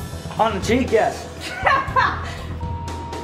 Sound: laughing

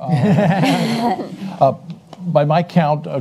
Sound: panelists laugh

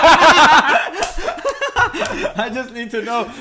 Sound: laughs

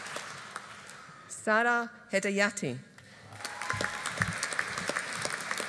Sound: audience applauding

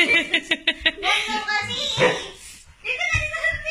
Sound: laughs

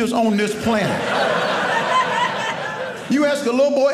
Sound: audience laughing

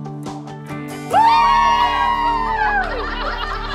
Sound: cheers

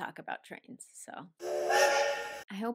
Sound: train sound effect

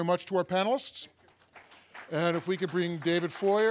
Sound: audience applauding

